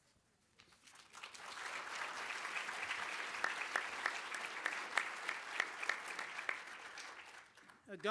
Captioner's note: applause